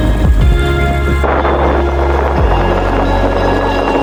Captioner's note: water running